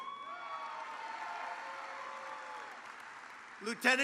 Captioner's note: applause